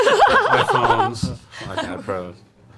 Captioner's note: all laugh